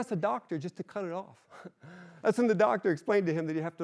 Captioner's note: chuckles